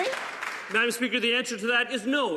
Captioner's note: some Applause